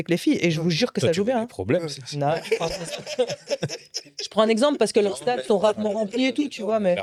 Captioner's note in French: rires